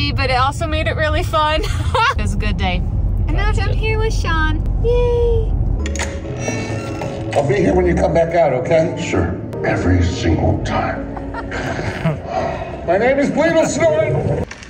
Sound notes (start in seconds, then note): 1.8 laughs; 11.0 laughs